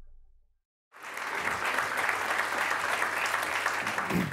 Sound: applause

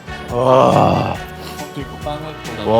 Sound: haaahh

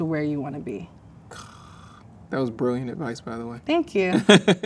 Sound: sighs

